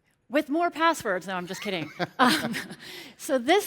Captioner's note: laughs